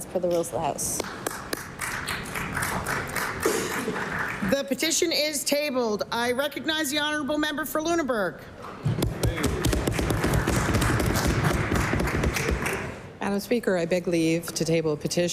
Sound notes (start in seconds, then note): 4.7 applause